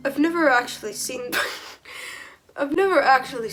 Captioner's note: wheeze